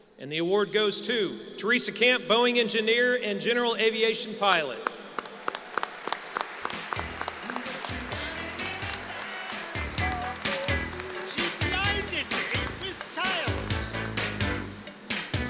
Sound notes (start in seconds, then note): 4.7 applause; 8.7 singing